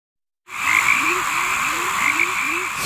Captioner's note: crickets